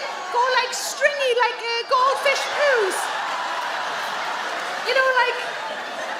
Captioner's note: audience laugh